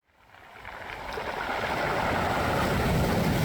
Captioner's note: waves crashing on the shore